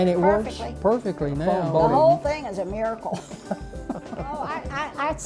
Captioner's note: laughs…